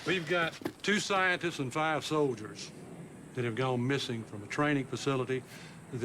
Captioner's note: none